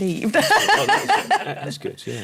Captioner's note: laughter